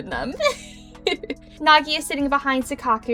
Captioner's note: giggles